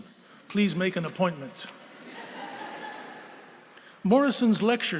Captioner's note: laughter